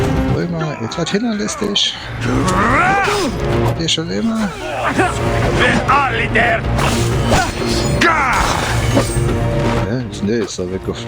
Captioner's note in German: stöhnen